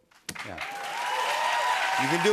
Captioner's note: cheers and applause